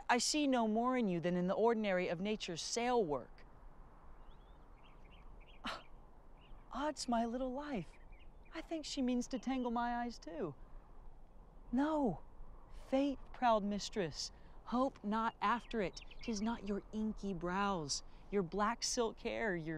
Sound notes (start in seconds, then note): 5.8 scoffs